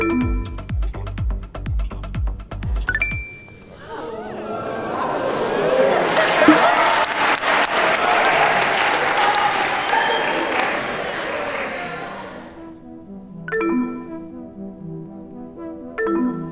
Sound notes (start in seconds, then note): 0.0 upbeat music; 0.1 electronics beep; 3.2 electronics ring; 3.2 everyone expresses surprise; 6.5 group applauds; 13.9 electronics beep; 13.9 gentle music; 16.3 electronics beep; 16.3 gentle music